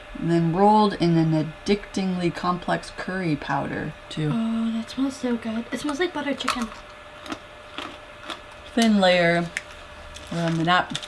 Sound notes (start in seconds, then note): 7.7 crunch